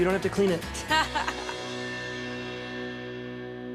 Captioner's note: laughs